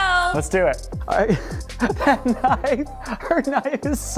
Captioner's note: laughs